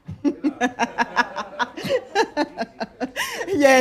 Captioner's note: laughter